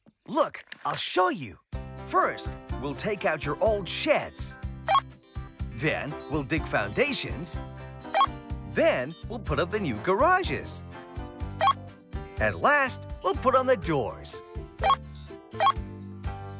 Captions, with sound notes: LOOK... I'LL SHOW YOU. FIRST, WE'LL TAKE OUT YOUR OLD SHEDS. ( Beep ) THEN, WE'LL DIG FOUNDATIONS. ( Beep ) THEN, WE'LL PUT UP THE NEW GARAGES. ( Beep ) AND LAST, WE'LL PUT ON THE DOORS. ( Beep! Beep! )